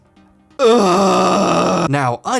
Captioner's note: over-exaggerated groaning